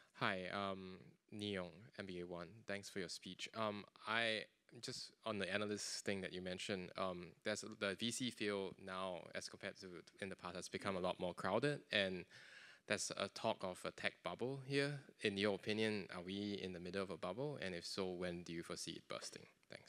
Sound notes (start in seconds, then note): none